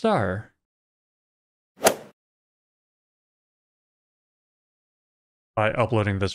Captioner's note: golf ball hit sound